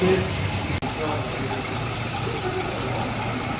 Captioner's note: engine noise